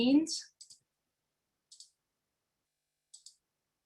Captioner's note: mouse clicking